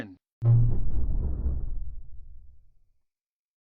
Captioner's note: Supernatural 3D Shadow Windows XP Shutdown Sound